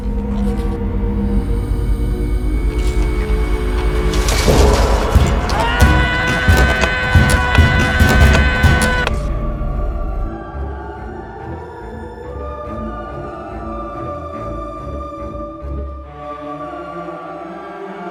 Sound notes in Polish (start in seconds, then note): 3.9 odgłos upadających włóczni; 6.3 okrzyk bojowy